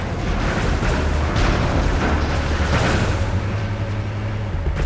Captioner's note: gun firing